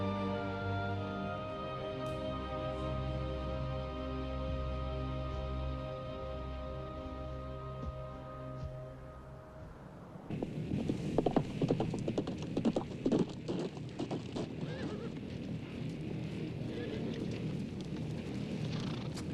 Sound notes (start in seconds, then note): 1.2 sorrowful music dwindles; 10.3 hooves clomping rapidly; 13.6 fire roaring; 14.6 horse whinnies